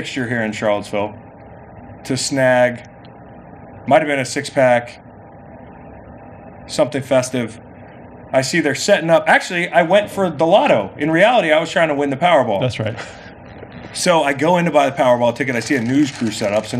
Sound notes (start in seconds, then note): 12.7 laughs